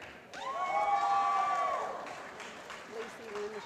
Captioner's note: applause